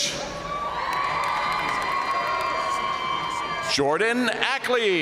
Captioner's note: audience cheering and applauding